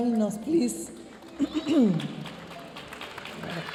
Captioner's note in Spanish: hablando en inglés; aplausos de la audiencia; se aclara la garganta